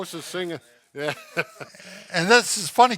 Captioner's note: laughs